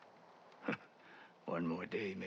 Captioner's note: laugh